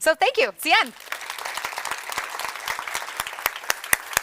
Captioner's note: audience applauds